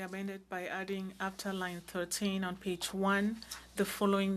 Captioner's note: speaking French